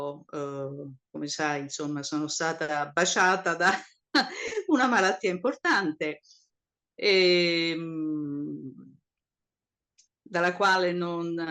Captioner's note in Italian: risate